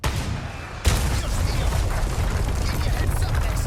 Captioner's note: rocket firing